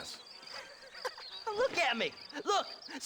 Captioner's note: laugh